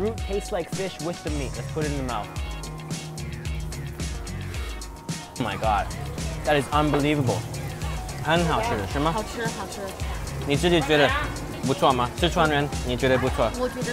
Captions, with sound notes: like fish with the meat, let's put it in the mouth. Oh my god, that is unbelievable. (speaking Chinese)